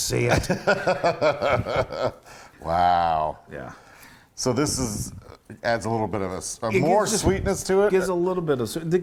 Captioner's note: laugh